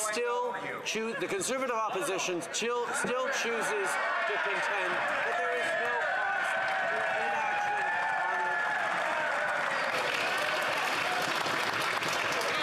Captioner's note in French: voix de l'interprète